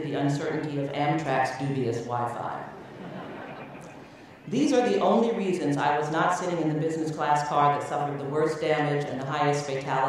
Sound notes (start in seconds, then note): 2.7 laughter